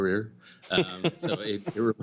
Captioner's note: laughter